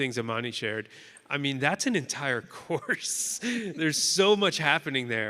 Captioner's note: chuckles